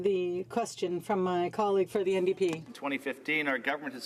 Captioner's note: speaking French